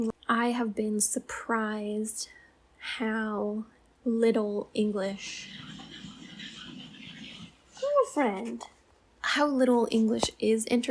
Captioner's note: cat scratching sounds